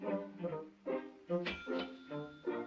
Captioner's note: dings